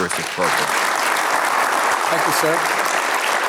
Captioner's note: audience applauding